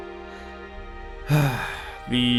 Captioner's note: sigh